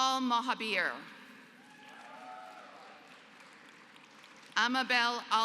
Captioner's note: applause